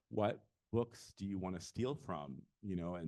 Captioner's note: none